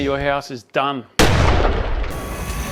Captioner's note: explosion